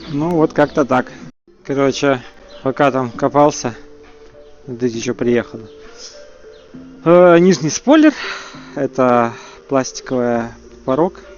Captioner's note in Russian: вздыхает